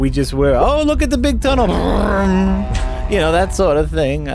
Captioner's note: high-speed worm noise